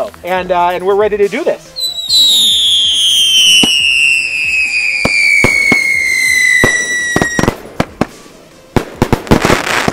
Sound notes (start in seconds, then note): 1.7 fireworks whistling; 5.8 fireworks exploding